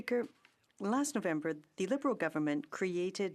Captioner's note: speaking French